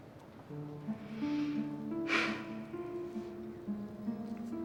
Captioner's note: deep breathing